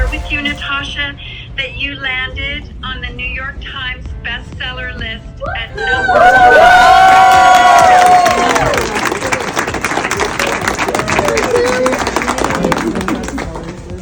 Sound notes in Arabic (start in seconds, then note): 5.7 هتاف الجمهور